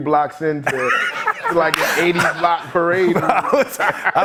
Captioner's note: laughter